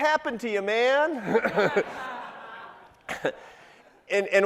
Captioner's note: crowd laughing